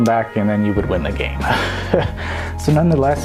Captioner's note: laughs